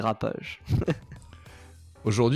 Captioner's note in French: laugh